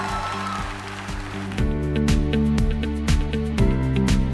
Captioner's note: cheers and applause